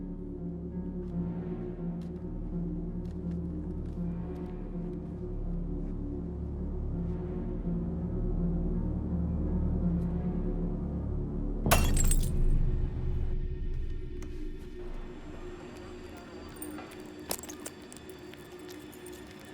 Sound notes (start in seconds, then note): 11.7 glass shattering